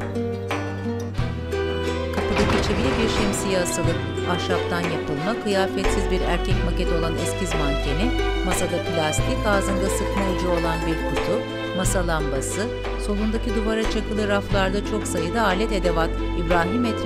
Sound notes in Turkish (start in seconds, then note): 2.0 Kapı kapanma sesi; 3.9 Müzik - Duygusal